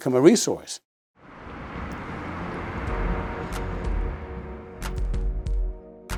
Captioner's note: traffic whirring; mellow electronic music